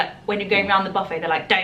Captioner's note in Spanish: none